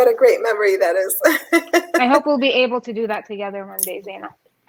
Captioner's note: laughs